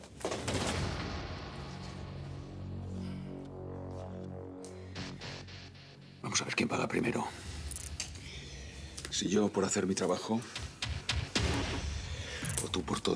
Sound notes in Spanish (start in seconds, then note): 7.6 sonido al quitarle las esposas